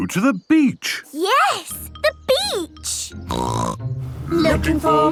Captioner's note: snorting